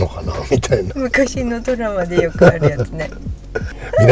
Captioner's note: laughs